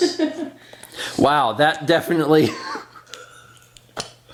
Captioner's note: laughs